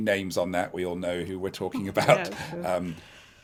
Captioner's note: chuckles